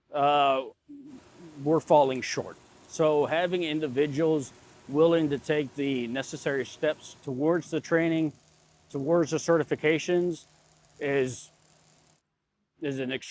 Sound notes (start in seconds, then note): 4.0 machinery humming; 11.5 sparks crackling